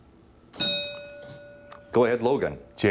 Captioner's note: bell dinging